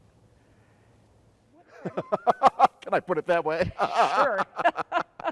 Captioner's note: laughs